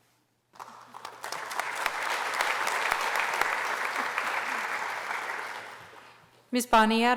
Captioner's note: applause